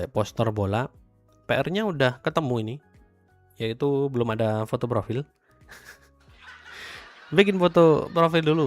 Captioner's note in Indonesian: tertawa